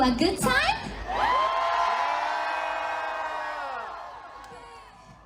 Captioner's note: cheering